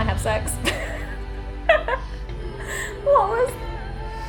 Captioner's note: laughs